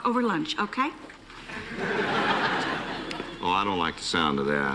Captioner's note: laughter